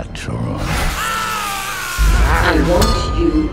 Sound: screams

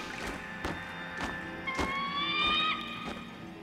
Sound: bird shrieking

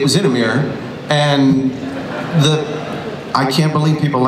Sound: audience laughs

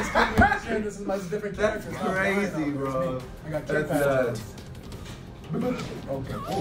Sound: laugh

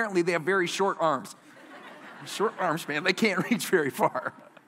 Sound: laughter

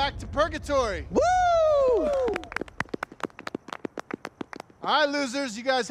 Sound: group cheers; group claps

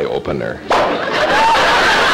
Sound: popping sound; audience laughter

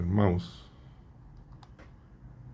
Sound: click

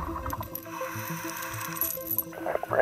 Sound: inhaling air

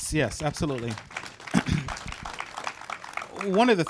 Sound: audience applauding

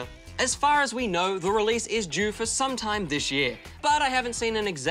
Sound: none

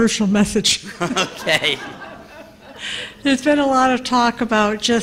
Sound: laughter

